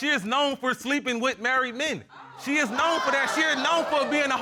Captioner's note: audience exclaims